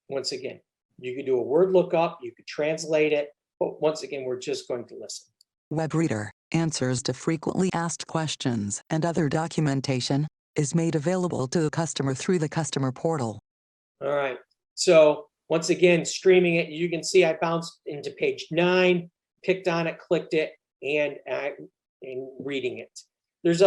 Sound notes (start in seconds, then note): 6.0 female Computer Voice